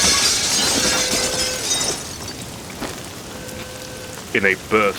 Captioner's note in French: Le verre se brise, les débris volent partout; Une alarme de voiture lointaine retentit dans tout le bâtiment